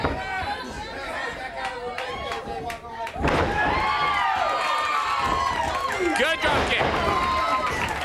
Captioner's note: crowd cheering